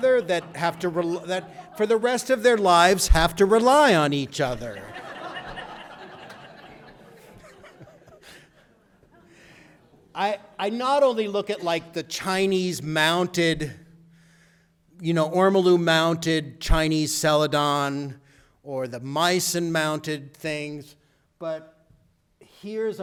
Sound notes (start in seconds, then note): 4.4 audience laughter